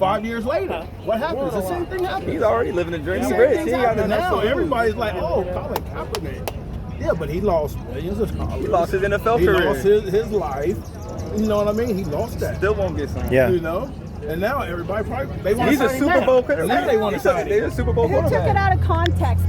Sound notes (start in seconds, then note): 5.7 claps